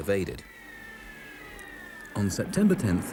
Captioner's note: shells whistle